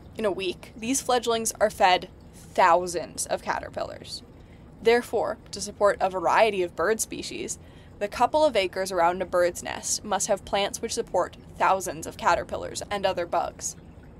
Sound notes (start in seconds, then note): none